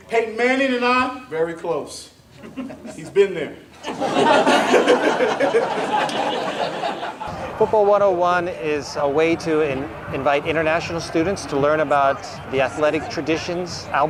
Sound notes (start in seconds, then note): 3.8 laughs